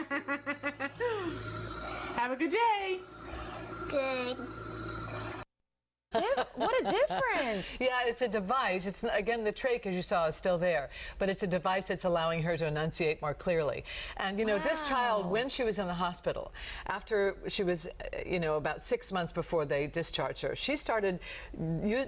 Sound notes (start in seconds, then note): 8.2 laughter